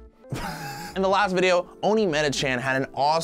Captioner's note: laughing